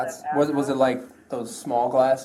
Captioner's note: radio chatter